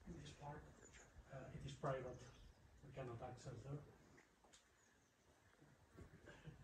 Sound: conversations in background

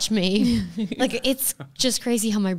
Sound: laughs

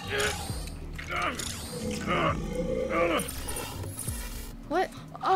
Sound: struggling

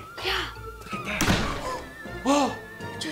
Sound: gasps

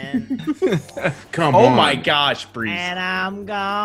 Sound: laugh

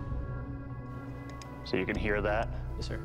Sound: clicking

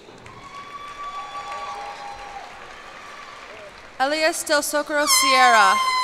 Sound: cheers and applause

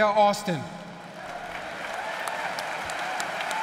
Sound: applause

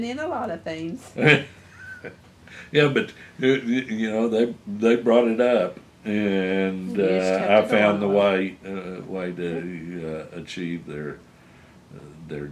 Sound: laughs

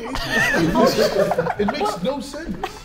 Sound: Sidemen laughing

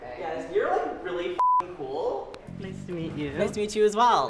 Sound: beep

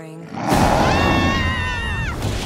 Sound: screaming

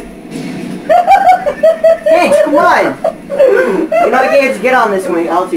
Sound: laughs

